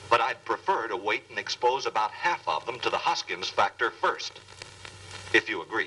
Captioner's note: none